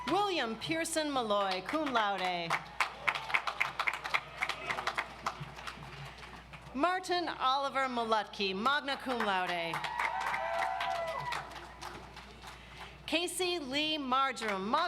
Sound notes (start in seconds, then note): 1.4 audience applauds; 9.1 audience applauds